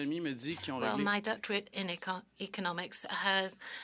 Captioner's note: speaking French